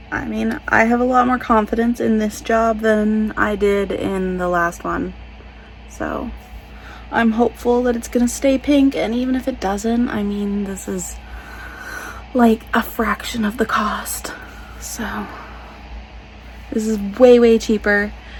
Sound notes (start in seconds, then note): none